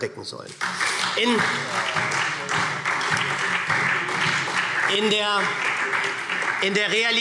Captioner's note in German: Beifall SPD